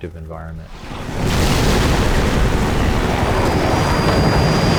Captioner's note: loud crashing